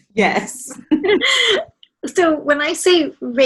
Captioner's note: laughs